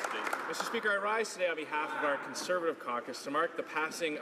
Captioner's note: some Applause